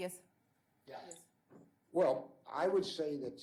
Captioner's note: voiceover